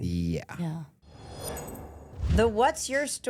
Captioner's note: logo whooshing